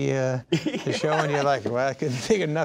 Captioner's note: laughing